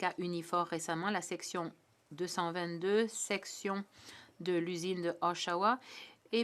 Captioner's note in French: voix de l'interprète